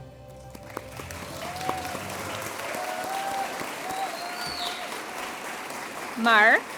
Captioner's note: applause & Cheers